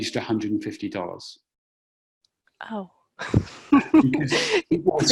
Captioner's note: laughter